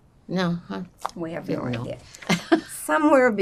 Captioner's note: laughing